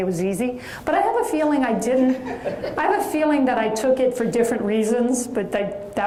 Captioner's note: audience chuckles